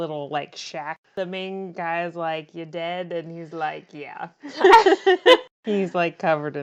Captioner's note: laughs